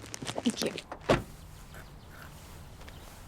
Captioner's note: car door shuts